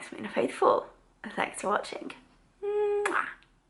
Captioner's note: mwah